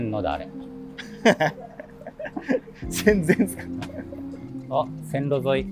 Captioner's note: laughing